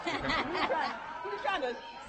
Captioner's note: laughing